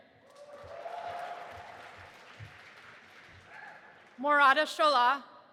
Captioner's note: audience applauding and cheering